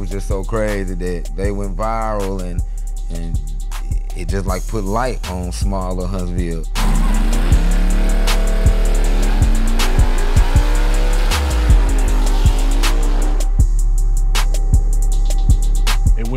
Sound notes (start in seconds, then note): 6.6 car engine revving; 13.4 hip hop music